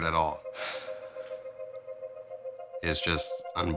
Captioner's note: sighs